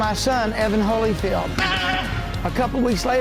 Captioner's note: yells